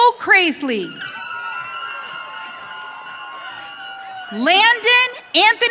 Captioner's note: audience cheering